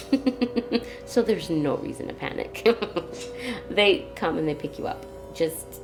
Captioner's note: laughs; laughs